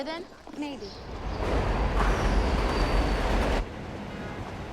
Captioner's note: subway cars rumbling